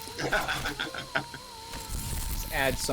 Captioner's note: laughing